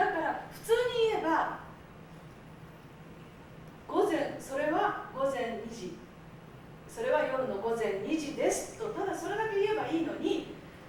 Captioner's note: speaking Japanes